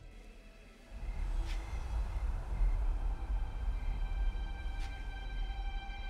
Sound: ominous music; wind whistling

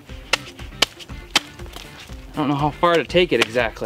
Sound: machete hacking

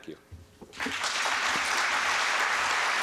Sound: applause

